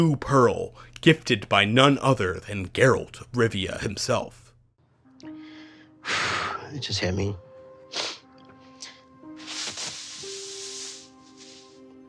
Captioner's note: deep breathy sigh